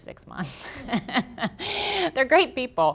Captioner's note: laughter